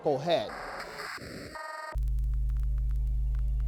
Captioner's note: computer static beeping; soft music